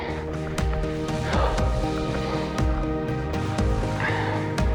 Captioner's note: heavy breathing